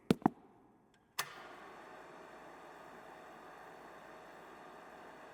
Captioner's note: footsteps plodding; button clicking